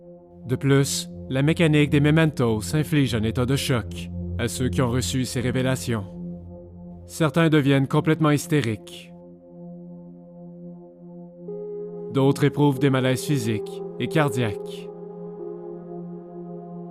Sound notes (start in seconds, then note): none